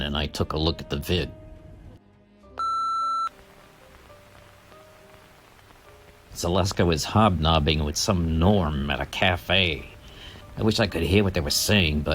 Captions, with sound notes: and I took a look at the vid. (video beeping) Zaleska was hobnobbing with some norm at a cafe. I wish I could hear what they were saying,